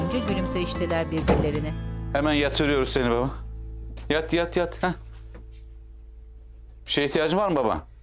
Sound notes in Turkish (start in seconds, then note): 1.2 Kapı kapanma sesi